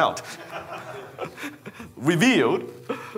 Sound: man laughing

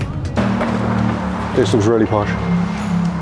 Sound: engines rumbling

